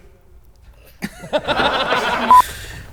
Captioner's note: laughs